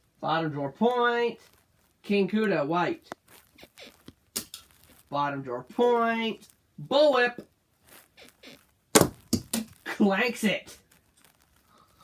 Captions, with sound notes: Bottom drawer, that's a point. King Kuda, white one. [bed squeaks] Bottom drawer. Point. Bull Whip [bed squeaks] Clanks it.